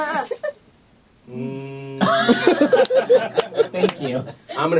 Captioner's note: laughter; laughter